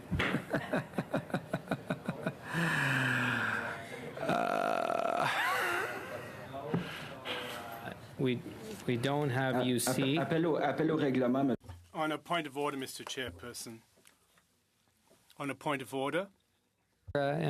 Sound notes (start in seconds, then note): 5.0 laughter